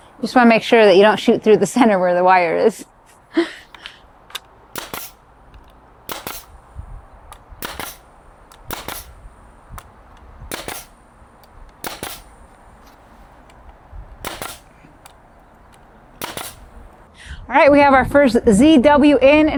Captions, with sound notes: Just wanna make sure that you don't shoot through the center (laughing) where the wire is. (nail gun hissing) All right, we have our first ZW in,